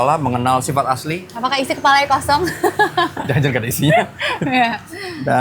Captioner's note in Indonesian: tertawa